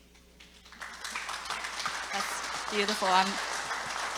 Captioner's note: audience applauding